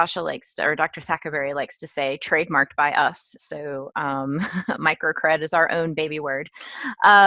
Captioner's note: laugh